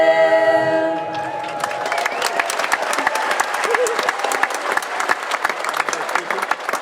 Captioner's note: audience applauding and cheering